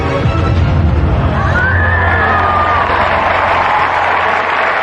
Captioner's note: cheering and applause